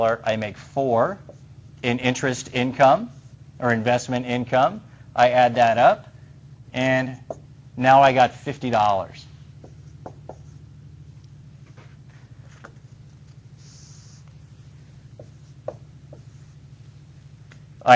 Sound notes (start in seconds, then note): 9.6 writing on whiteboard; 15.1 erasing whiteboard